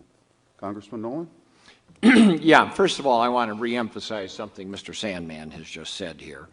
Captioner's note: clears throat